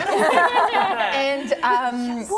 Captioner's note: laughter